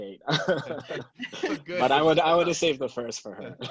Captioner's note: laughing